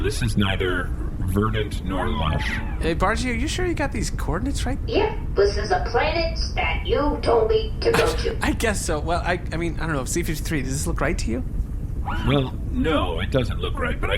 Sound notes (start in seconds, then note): 7.9 laughing